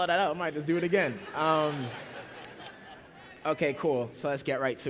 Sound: laughter

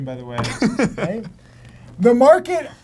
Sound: laughs

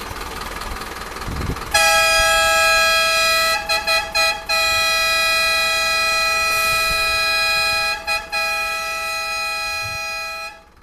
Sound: hooter

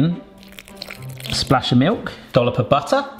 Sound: milk splashes

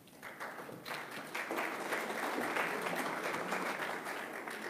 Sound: audience claps

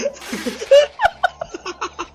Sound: they still laugh; epic laugh; epik laugh; laugh epIC

